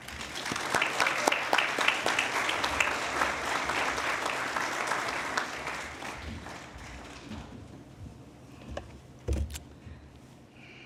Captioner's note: applause